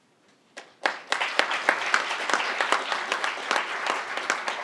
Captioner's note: crowd applauding